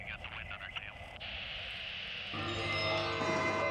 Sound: voiceover; static

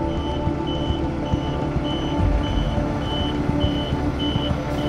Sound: bus back up siren

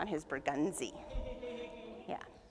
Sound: audience chuckles and coos

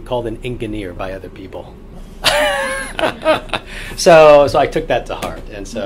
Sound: all laugh

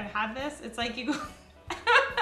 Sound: laughing

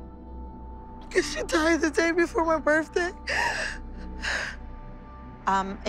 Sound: crying

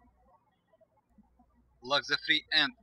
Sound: birds chirping

